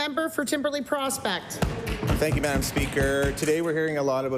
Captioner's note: applause